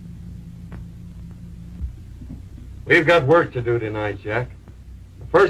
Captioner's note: none